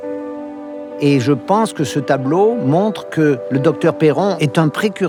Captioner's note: speaking in foreign language